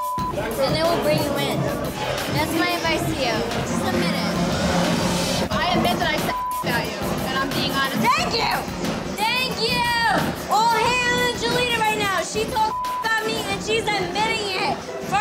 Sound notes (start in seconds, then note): 6.2 beep; 12.6 beep